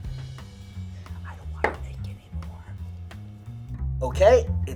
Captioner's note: whispers